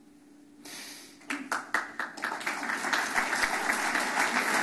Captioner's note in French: Applaudissements